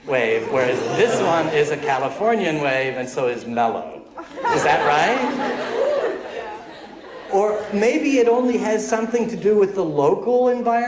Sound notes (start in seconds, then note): 4.1 laughter